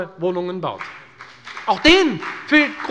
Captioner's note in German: Beifall bei der FDP